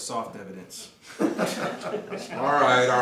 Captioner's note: laughter